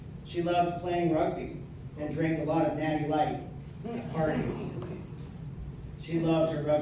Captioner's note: audience laughs